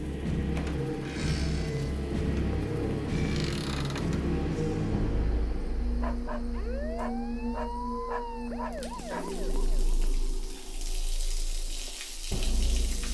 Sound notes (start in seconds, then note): 0.1 tense instrumental music; 8.0 dog barks; 8.5 siren wails; 10.2 water splatters